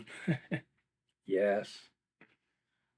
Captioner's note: laughs